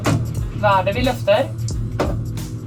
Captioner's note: speaks norwegian